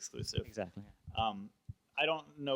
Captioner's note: voiceover